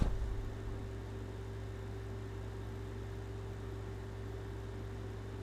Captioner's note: air conditioner humming continues